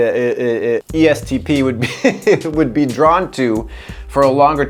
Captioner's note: laughs